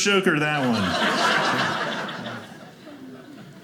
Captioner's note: audience laughing